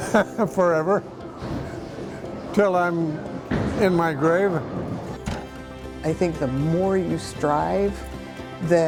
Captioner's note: laughs